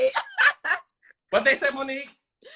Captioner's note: Monique laughs